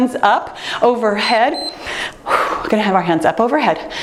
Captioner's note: timer beeps